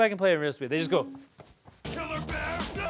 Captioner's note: feet thudding